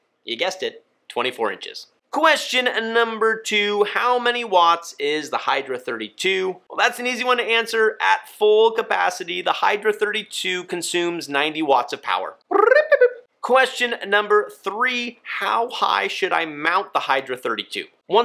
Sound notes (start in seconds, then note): 12.5 host chirps